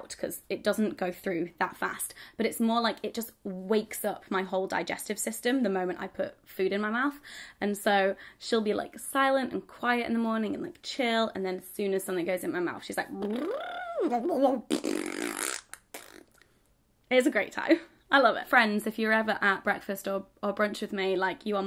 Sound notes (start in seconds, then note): 13.1 blows raspberry; 14.0 babbles